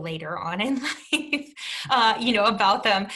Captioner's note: chuckles